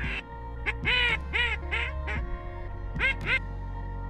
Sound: duck calls

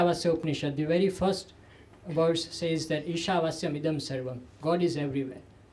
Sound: sanskrit

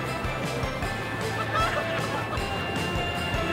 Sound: joyful laughter

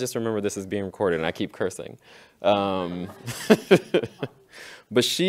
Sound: laughs

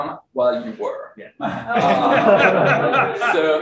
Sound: room laughs

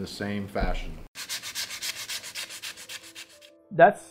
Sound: sandpaper scrubbing

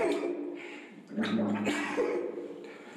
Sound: gargles and swallows

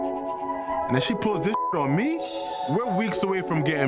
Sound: beep

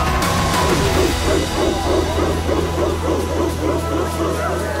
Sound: crowd chanting

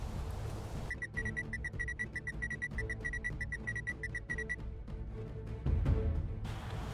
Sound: communications beeping

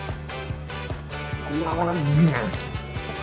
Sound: angry gargling

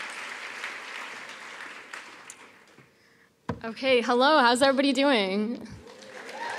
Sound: applause

